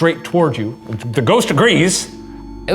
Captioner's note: REM-pod beeping